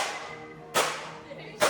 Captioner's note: bat banging